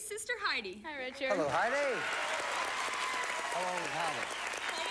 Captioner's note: audience applauding